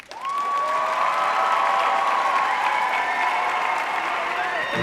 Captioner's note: audience applauding